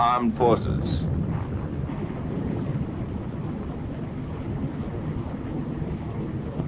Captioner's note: rumbling, flames hissing